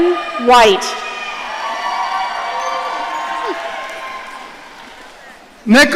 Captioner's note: audience cheering